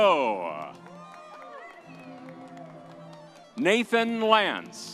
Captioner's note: upbeat music continues; audience cheers